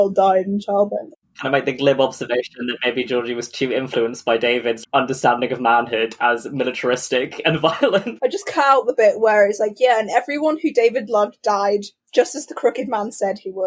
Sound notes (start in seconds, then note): 7.1 laughs